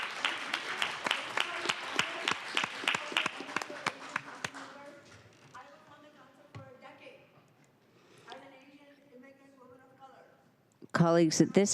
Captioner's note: applause